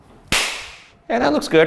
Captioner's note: hands clap